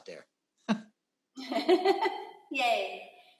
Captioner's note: laughter